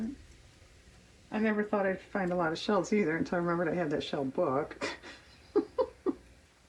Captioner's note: laughs